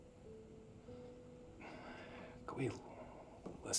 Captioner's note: Ben sighs